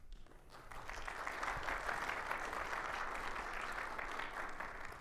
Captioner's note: attendees clapping